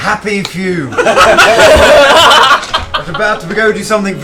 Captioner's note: laughter